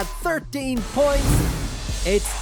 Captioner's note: whoosh